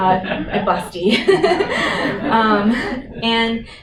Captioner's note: laughter